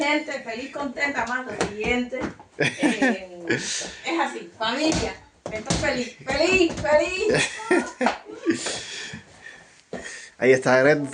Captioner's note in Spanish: risas